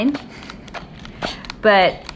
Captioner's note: steam hissing